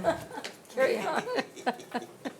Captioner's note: laughing